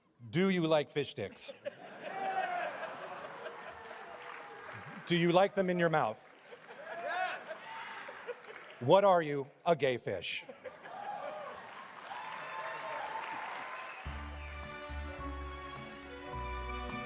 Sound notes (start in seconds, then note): 10.9 applause, cheers; 14.0 relaxing music